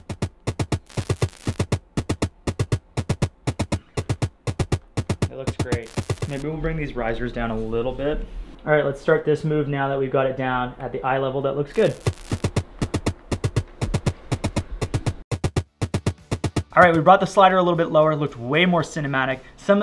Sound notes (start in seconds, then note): 0.0 upbeat drum music; 0.1 static crackling; 11.7 static crackling; 11.7 upbeat drum music